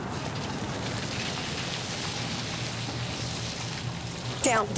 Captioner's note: vehicle engines revving